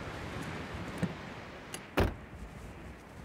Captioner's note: car Door Opens & Closes